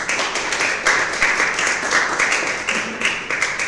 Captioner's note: applause